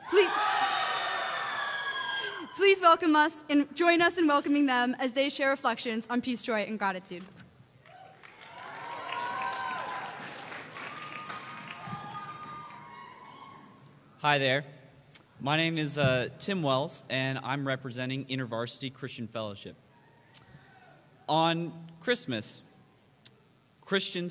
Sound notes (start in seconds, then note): 0.0 cheers; 7.8 applause